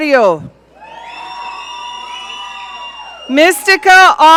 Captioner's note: audience cheering